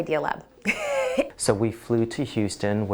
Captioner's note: laughs